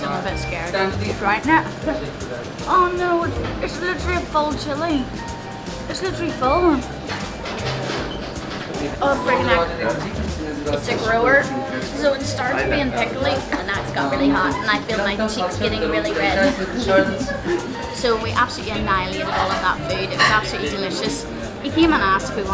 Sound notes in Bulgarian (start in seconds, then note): 13.2 кашлица